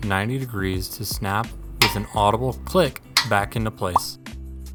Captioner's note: click noise